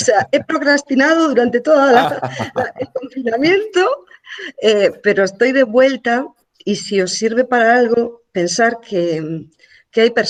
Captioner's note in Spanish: risas